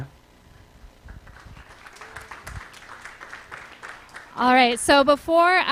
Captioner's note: applause